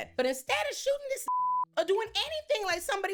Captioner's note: beep